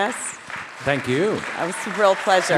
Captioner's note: audience applauding